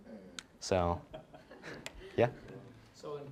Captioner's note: audience laughing